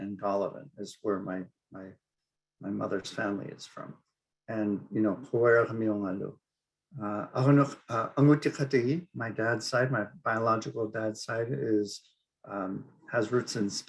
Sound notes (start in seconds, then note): 6.8 speaking Inupiaq